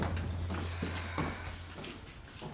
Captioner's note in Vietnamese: thở